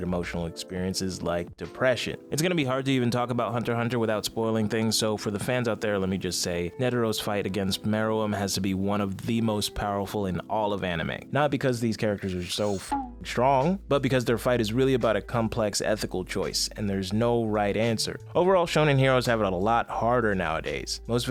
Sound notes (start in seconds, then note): 12.6 beep